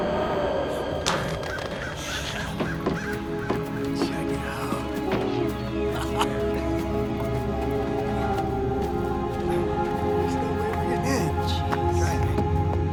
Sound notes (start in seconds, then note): 0.9 clatter; 1.0 bird squawks; 6.3 laughter